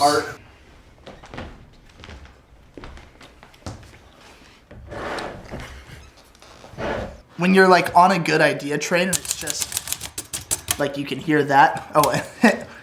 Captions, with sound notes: - Art films. - When you're like on a good idea trend, it's just (typing) Like you can hear that, oh wait